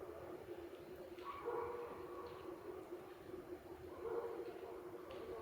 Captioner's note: dogs barking